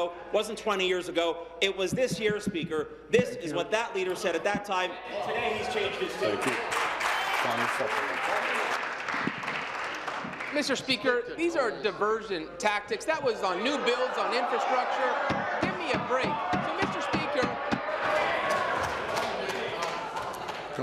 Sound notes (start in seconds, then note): 10.7 applause